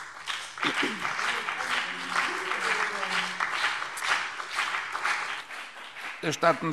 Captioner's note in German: Beifall BÜNDNIS 90/DIE GRÜNEN, CDU und vereinzelt DIE LINKE